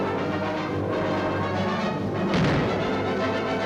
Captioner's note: guns firing